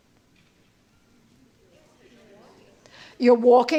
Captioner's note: indistinct chatter